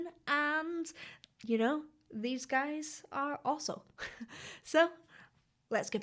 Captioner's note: chuckles